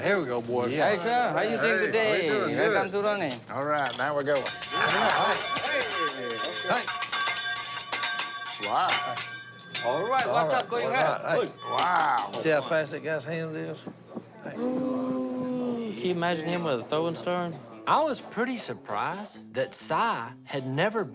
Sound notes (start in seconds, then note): 4.2 clanging